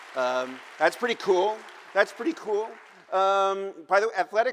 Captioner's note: applause